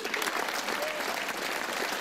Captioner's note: crowd clapping